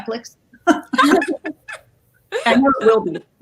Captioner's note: all laugh